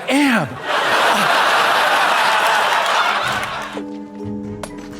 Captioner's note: audience laughs